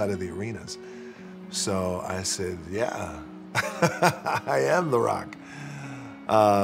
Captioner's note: laughing